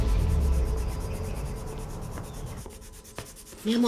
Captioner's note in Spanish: Ruido de lápiz sobre papel